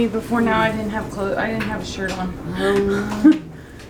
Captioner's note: laughs